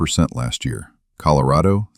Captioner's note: beat